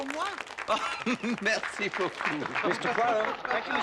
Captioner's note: Tertawa